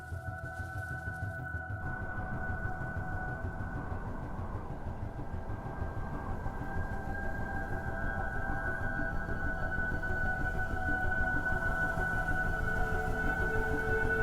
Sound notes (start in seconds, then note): 1.6 wind rustling